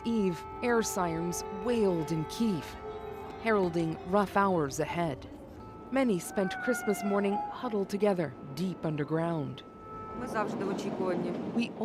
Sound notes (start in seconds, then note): 2.8 sirens